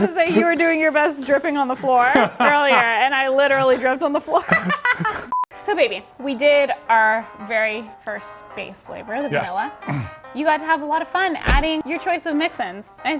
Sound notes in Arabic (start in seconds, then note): 5.1 يضحك